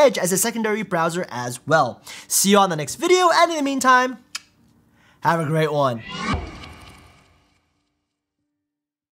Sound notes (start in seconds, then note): 5.4 whoosh